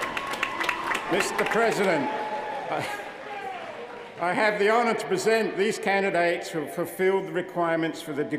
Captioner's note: cheers & applause